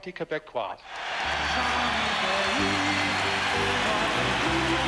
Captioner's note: cheering